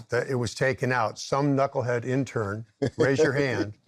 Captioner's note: chuckles